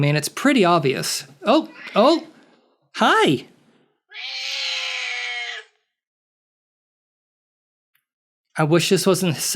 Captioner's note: cat screeching